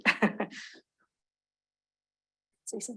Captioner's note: chuckling